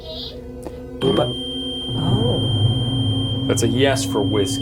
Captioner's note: EMV beeping